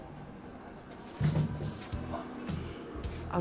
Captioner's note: thud